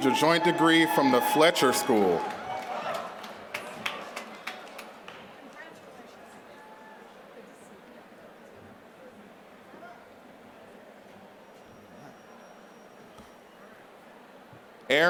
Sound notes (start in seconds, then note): 2.3 applause